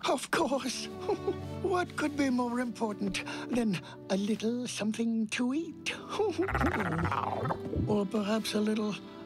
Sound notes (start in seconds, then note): 4.2 laughs; 4.2 stomach gurgling